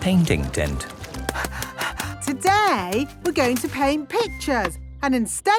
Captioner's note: panting